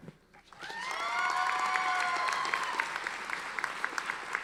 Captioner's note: audience applauding